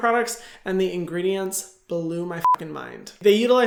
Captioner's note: beep